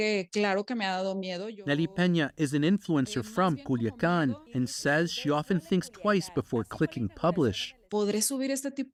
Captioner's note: speaking alternate language